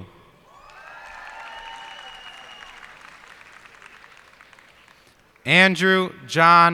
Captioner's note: cheers and applause